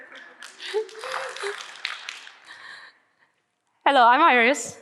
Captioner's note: audience clapping